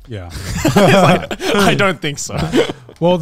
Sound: all laughing

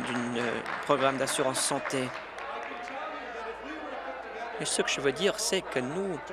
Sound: applause

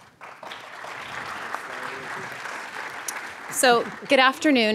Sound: audience applauds

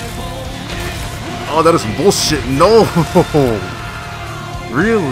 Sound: laughs

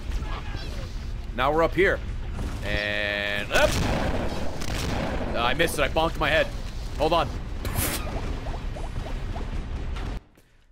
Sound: laughs

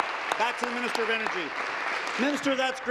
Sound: applause

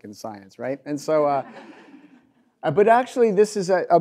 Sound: audience laughs

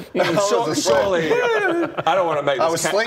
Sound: woooo

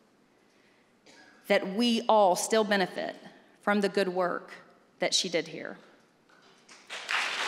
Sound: applause

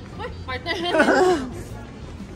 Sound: laughs shyly

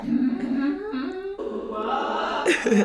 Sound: hums; laughs

